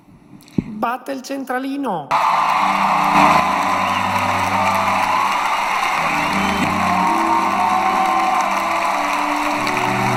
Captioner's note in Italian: Applauso